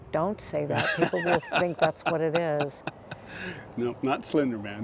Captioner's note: laughs